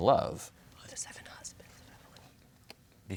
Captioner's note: whispers